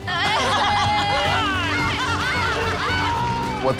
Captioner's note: cheering